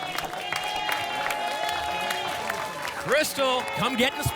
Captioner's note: applause and cheering